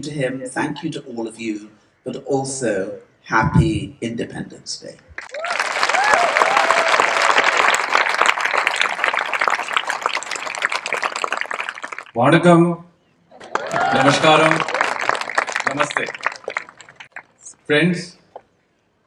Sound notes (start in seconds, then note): 5.2 cheering/Applause; 12.2 applause